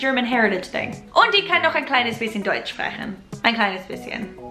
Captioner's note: foreign language